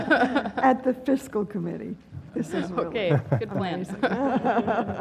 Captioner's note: laugh